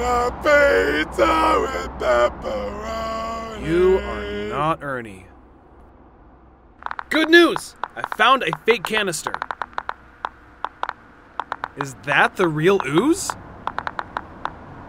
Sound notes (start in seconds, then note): 6.8 ooze detector sounds